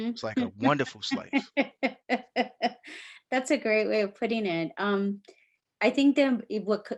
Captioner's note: laughing